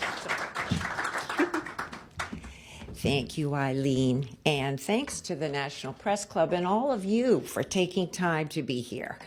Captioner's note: applause